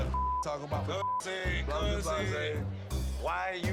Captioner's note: people chattering; beep